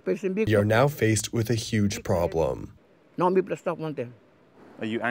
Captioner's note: through translator